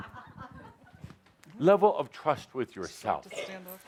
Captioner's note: laughter